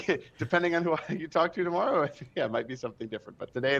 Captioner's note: laughs